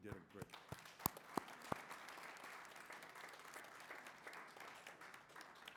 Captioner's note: applause